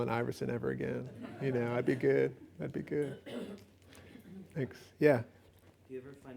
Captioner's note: laughs